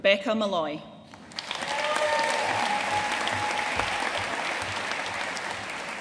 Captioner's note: audience cheering and applauding